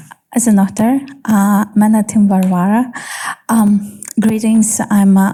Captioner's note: speaking in foreign language